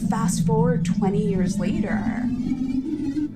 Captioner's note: soundbite of archived recording